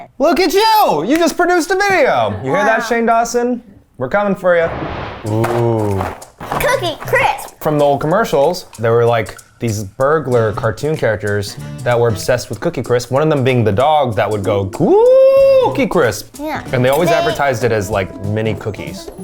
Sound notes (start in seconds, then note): 4.6 animated explosion booming; 5.2 cereal box thudding